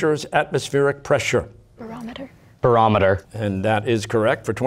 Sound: quietly

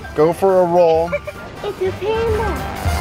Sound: laughter

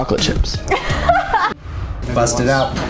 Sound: laughs

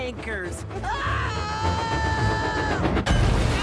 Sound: James Screams

